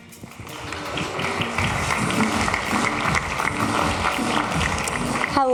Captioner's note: applause